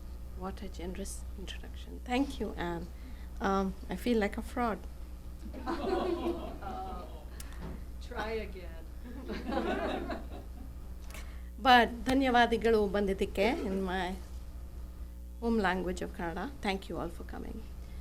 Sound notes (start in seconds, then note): 5.5 laughter; 9.1 laughter; 11.4 non-english speech